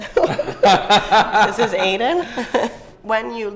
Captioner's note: both laugh